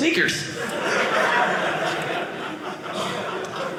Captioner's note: audience laughing